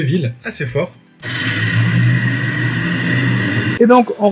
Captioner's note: city noise